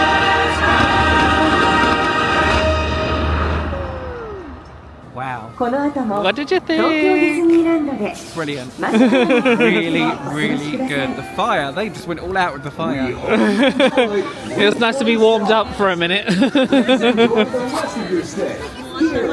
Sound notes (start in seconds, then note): 8.8 laughing; 17.6 laughing